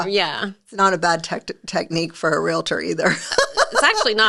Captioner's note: laughing